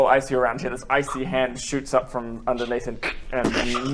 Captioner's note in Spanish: crrk